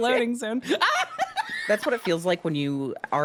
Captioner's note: laughs